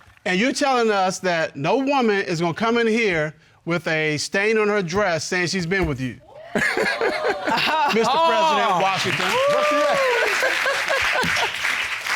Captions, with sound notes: And you're telling us that no woman is gonna come in here with a stain on her dress saying she's been with you? -[laughs] -[audience hooting] -Mr. President Washington. -That's right. -[laughs] -[audience applauds]